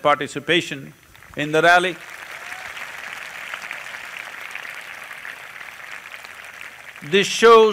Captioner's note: applause